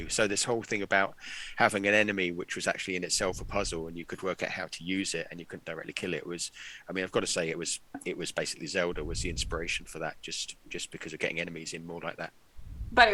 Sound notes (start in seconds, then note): none